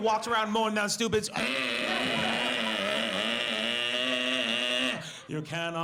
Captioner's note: imitates chainsaw buzzing